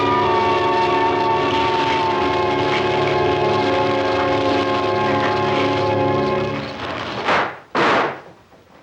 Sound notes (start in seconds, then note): 0.0 fire crackling